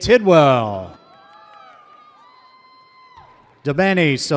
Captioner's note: audience cheers